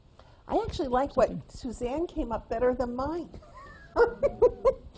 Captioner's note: laughs